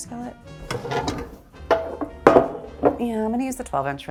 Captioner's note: skillet banging